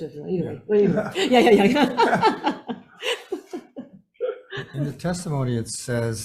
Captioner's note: laughs